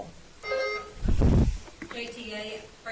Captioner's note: bell ringing